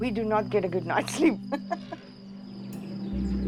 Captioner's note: laughs